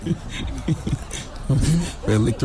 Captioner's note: laughing